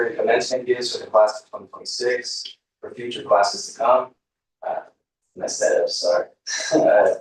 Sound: laughter

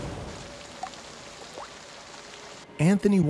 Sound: dripping, rain slowing

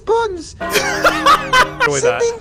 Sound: laughter

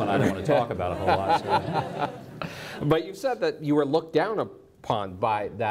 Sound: audience laughs

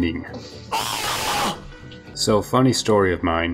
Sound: screams in disgust

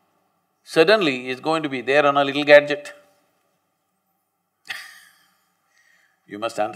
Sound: laughs

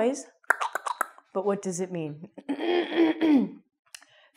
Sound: clicks tongue

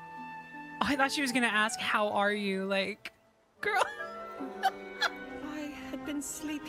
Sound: laugh

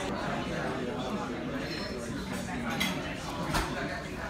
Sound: customer chatter

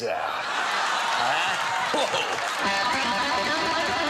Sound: audience laughing; rock guitar playing

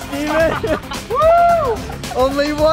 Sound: yelling

